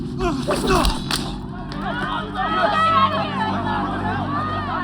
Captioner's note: patrons yelling